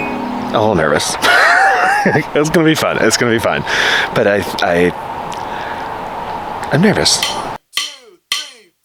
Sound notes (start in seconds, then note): 1.2 laughing; 7.7 drum beat